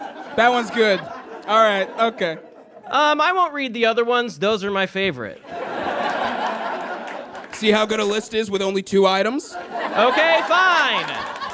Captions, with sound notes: That one's good. Alright, okay. I won't read the other ones. Those are my favorite. (audience laughs) (scattered applause) See how good a list is with only two items? Okay, fine.